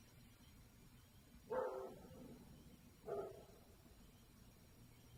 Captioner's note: dog barking